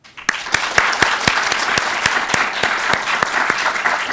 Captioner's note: participants clapping